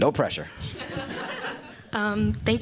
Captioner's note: laughter